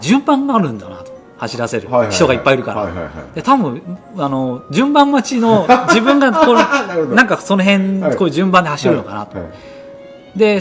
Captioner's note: laughs